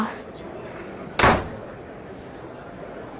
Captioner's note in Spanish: portazo